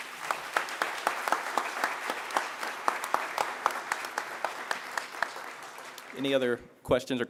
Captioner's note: applause